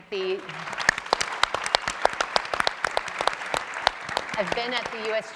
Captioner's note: audience and panelists applauding